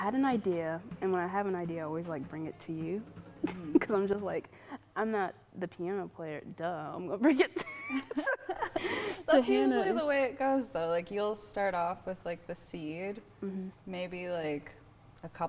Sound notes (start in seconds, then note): 7.5 laughter